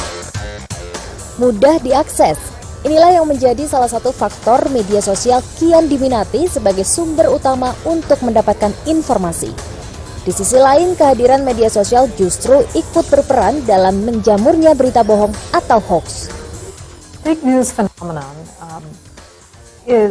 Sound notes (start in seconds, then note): 4.7 non-english speech